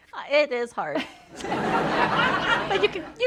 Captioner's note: laughter